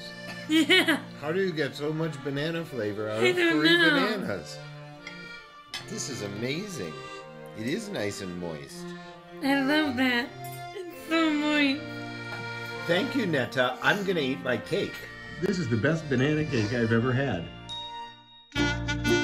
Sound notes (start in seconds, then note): 0.3 laughing; 17.9 instrumental music